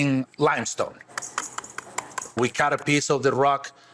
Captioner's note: knife chopping